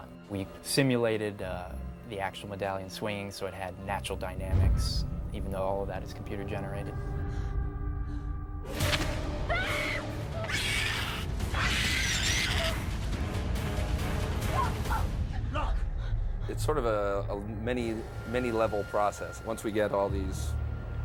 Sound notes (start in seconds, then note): 9.2 screams; 9.2 screeching